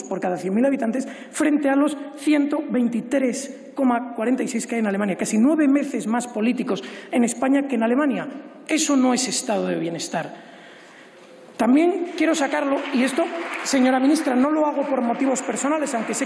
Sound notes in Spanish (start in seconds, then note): 11.8 Aplausos